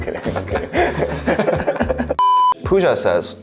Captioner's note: both laugh